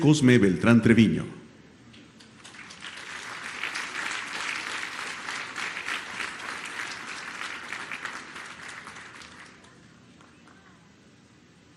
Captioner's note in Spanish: aplausos